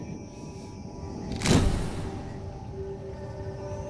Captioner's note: camera flickers; ominous music